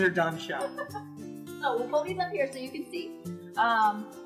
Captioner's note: laughing